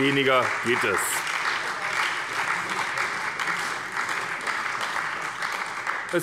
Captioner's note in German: Beifall bei der SPD